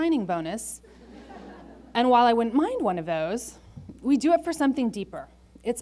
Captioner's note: laughter